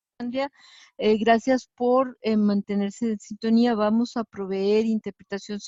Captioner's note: woman speaking in Spanish